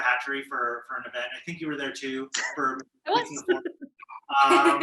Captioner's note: chuckles